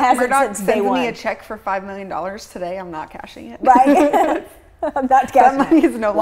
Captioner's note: laughs